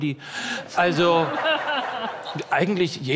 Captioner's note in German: Lachen